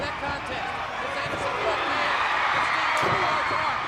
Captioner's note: crowd cheers